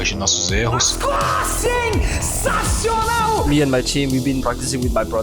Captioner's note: screaming